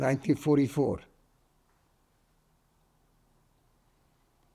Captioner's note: pauses 10 seconds